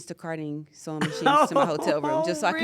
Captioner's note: laugh